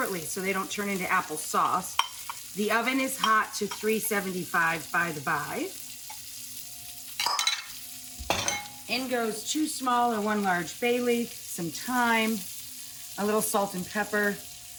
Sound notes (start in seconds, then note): 7.3 pan sizzling; 8.2 dishes clinking